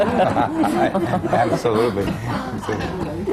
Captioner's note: laughter